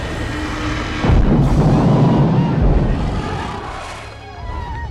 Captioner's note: dragon thuds